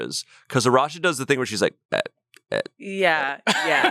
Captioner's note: mimics Arasha